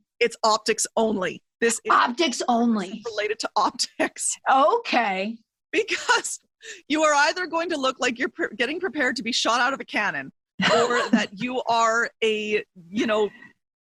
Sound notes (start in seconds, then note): 5.1 chuckles; 6.2 laughs